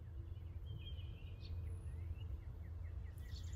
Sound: birds chirping softly

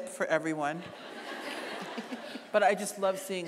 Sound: audience laughing

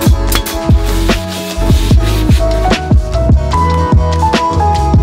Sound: nail gun pounding; wood scraping on wood

